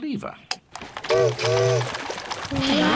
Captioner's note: chimney toots